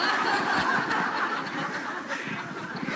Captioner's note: laughter